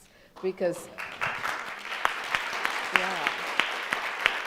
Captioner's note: crowd applauds